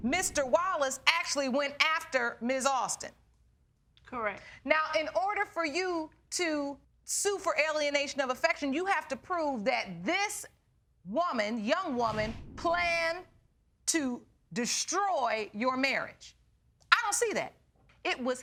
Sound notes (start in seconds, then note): none